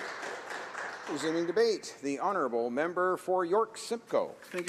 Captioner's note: applause